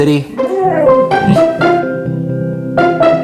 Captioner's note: dog whining